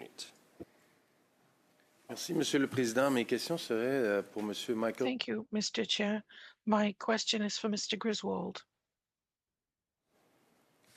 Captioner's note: speaking French